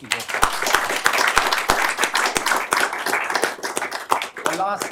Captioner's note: applause